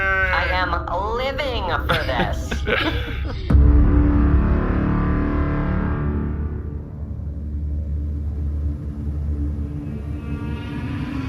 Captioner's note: laughing